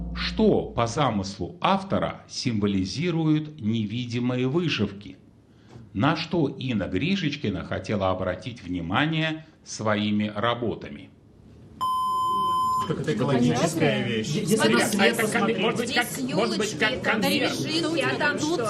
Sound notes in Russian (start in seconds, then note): 11.7 колокольчик